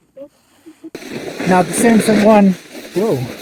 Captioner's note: snowboard scratching